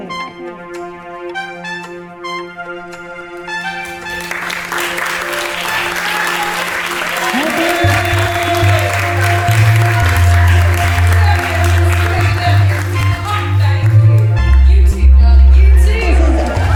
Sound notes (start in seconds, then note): 15.1 applause